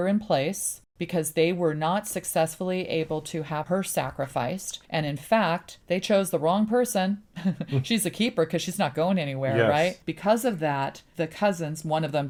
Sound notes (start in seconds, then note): 7.5 laughs